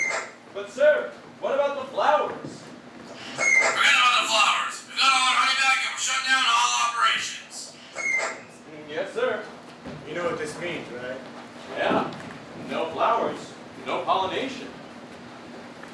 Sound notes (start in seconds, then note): none